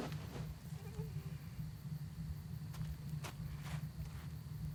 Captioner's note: soft groaning